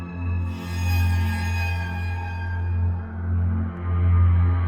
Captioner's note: spooky sound effect